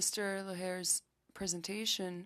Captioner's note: speaking French